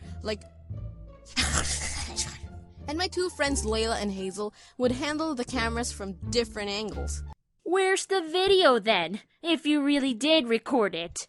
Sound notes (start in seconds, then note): 1.3 creepy WTF sidey noises